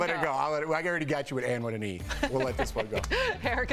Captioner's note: laughter